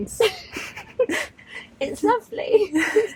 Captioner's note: laughs